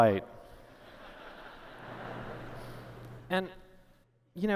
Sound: laughter

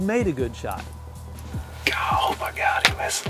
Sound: whispering

